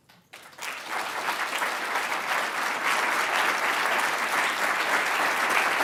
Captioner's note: applause